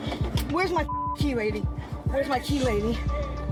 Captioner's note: beep